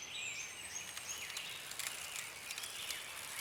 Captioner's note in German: Ein Rollstuhlrad fährt vorbei